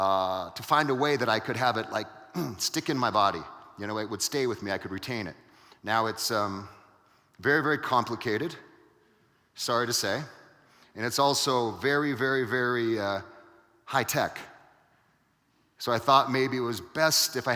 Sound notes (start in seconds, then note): 2.4 grunts